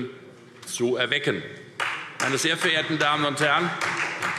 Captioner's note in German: Beifall Freie Demokraten